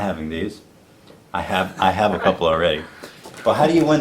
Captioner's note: laughs